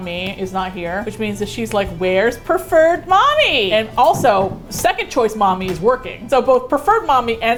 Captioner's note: indignantly